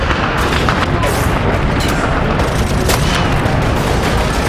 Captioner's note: guns firing